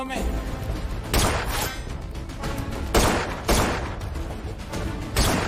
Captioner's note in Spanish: Disparos